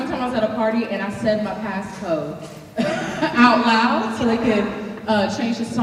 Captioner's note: laughing